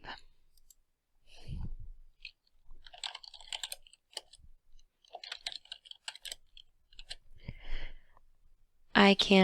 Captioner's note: typing sounds